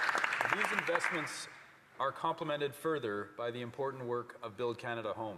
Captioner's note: applause